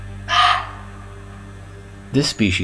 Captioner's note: bark!!